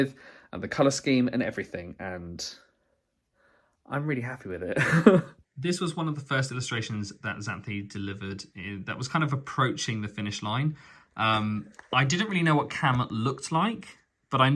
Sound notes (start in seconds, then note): 4.8 laughs